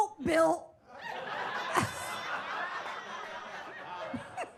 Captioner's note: audience laughs